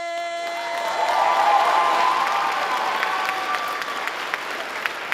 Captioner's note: uproarious audience applause